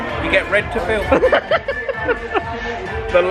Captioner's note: laughs